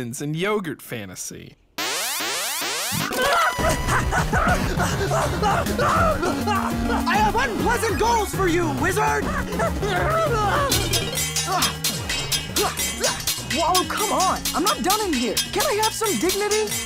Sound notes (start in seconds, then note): 2.6 gasps; 10.4 clanging